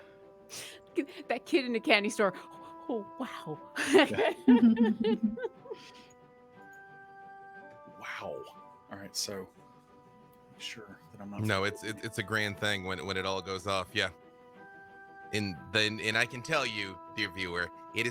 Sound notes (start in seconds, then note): 3.8 chuckling